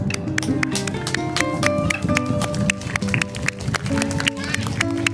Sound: clapping; crowds applaud

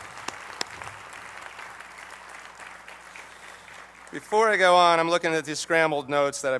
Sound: applause

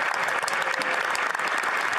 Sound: applause

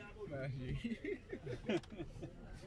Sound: laughing

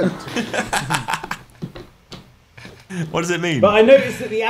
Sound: laughs

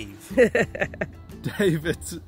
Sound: laughter off camera

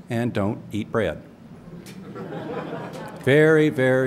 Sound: laughter

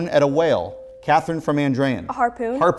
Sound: beeping

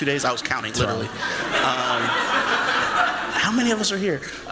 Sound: laughter

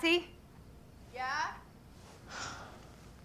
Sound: sighs

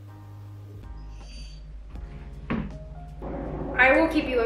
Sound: Benji whimpering

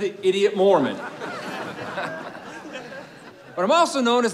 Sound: crowd chuckling

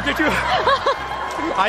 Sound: laughter

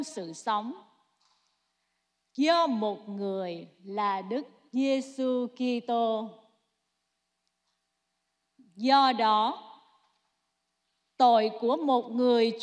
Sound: speaking non-english

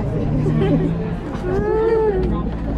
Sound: laughing

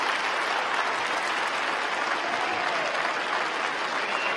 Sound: applause

